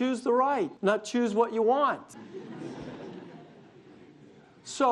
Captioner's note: audience laughs